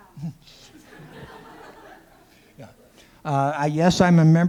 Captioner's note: laughter